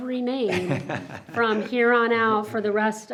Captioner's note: chuckles